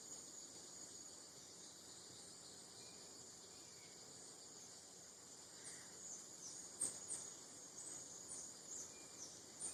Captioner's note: birds chirping